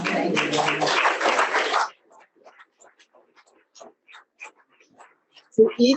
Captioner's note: audience applauding